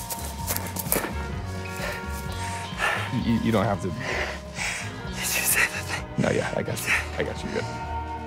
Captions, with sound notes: - [panting] - You-- you don't have to-- - [breathlessly] Did you say that they-- - No, yeah, I got you, I got you.